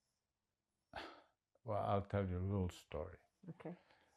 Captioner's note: sighing